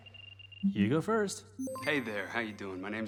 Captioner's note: system beeps